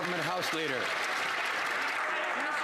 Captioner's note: some Applause